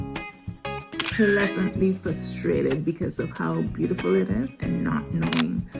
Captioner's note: photo click; photo click